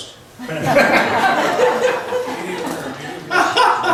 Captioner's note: laughs